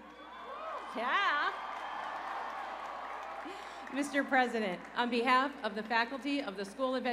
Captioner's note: cheers and applause